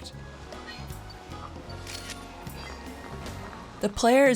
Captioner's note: camera shutter clicks